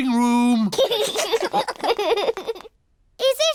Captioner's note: laughter